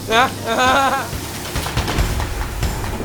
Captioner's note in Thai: เสียงหัวเราะ